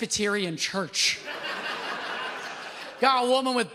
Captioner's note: audience laughs